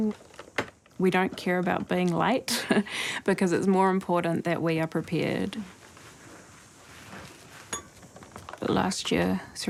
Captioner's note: laughs